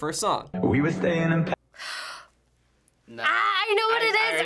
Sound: gasping

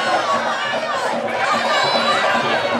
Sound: rhythmic drumming begins; people cheering; rhythmic drumming

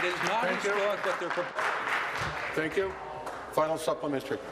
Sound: applause

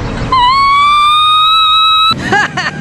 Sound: cries

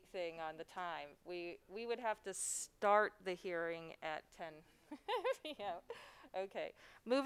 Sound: laughs

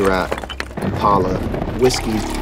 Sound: stones move; growl; drink pours into glass

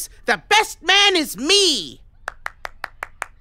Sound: claps politely

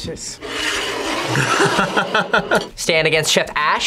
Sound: laughs

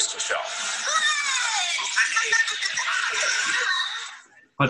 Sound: cheering and laughing

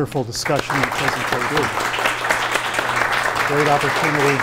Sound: audience applauding

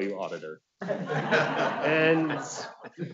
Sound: audience laughs

